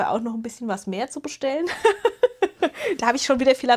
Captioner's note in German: gelächter